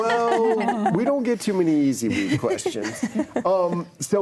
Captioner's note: panelists laughing